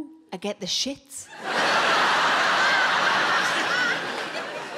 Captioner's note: audience laughing